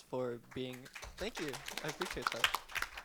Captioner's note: audience applauding